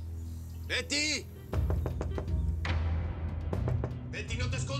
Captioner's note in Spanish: Golpes en la puerta